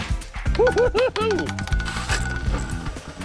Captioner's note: laughing